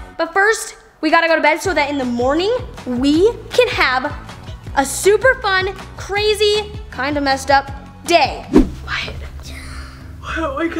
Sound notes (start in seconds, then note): 9.2 whispers